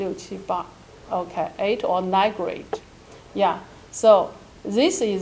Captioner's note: speaking in foreign language